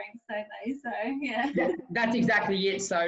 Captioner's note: chuckles